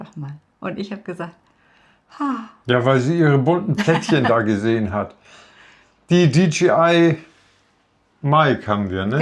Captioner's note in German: gelächter